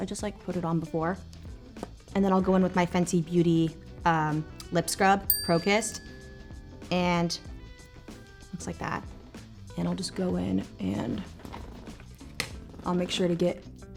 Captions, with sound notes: I just put it on before, and then I'll go in with my Fenty Beauty lip scrub, Pro Kiss'r, [bell pings] and it's like that. And I'll just go in and I'll make sure to get